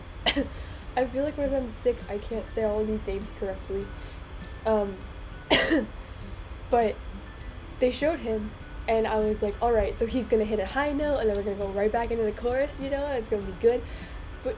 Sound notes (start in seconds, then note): 0.2 cough; 5.5 ehem